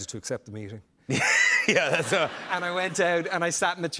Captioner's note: laughter